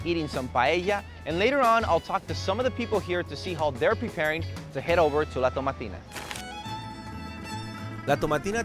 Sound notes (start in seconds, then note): 6.1 paper rustling; 7.1 spanish guitar music